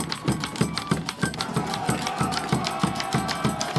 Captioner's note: cheering